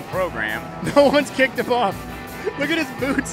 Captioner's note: laughing